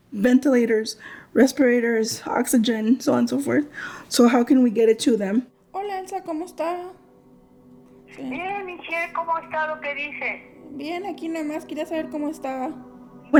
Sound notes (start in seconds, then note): 5.8 speaking in foreign language; 8.1 person on phone speaking in foreign language